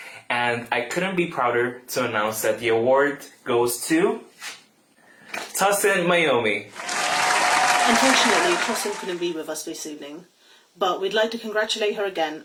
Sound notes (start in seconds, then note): 6.7 applause